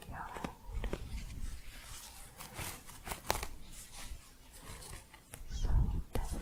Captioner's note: crunchy scratching